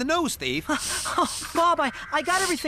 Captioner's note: breathless